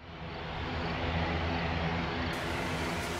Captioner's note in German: Flugzeugtriebwerke surren